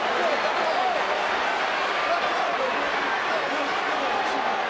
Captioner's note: all chattering